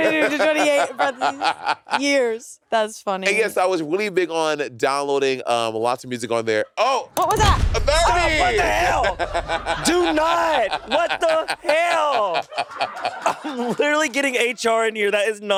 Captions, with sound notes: - 22 to 28 buttons, years. (laughing) That's funny. - And yes, I was really big on downloading lots of music on there. Oh! (mouse clicking) - What was that? (high intensity music) - 30! - Oh, what the hell? (crew and laughing) Do not! What the hell? I'm literally getting HR in here.